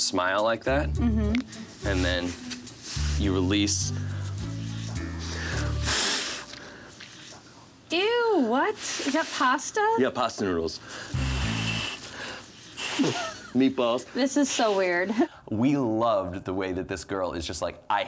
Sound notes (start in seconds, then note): 4.0 blows; 11.0 blows